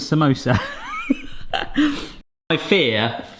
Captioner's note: laughs